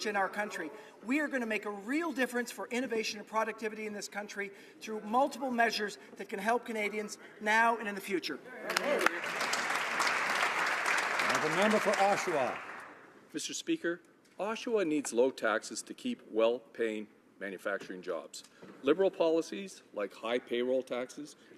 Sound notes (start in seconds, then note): 11.4 some Applause